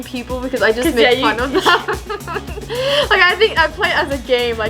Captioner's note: laughs